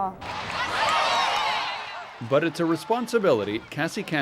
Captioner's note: crowd shouting